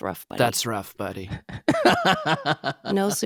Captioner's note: laughing